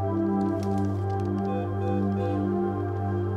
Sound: beeping

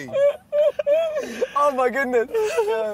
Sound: Vik laughing

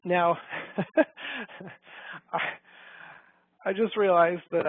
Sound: laughs

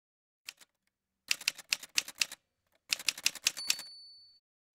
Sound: typewriter sounds

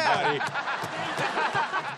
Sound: laughing

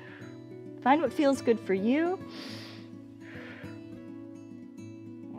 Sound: inhales and exhales

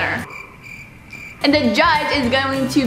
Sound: crickets chirping

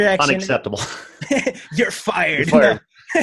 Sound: laughing

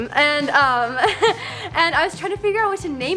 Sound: chuckles

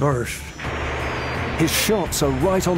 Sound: guns fire

